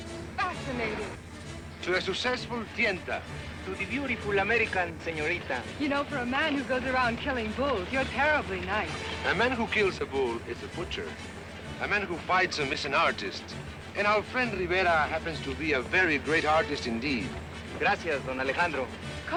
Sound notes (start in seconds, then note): none